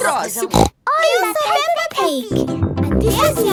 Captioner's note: snorts